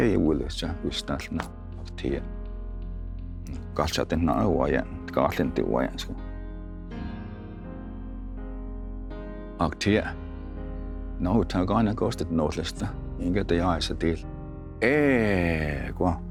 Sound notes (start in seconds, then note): 3.8 tells story in Cherokee language